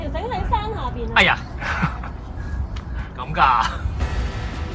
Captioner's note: laughs